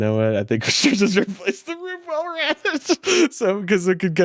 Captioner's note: laughs